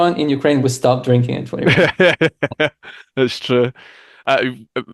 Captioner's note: laughs